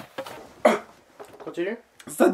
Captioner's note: hum hum